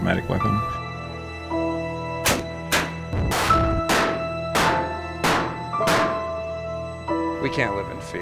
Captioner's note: gun Shots